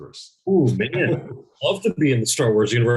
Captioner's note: laughs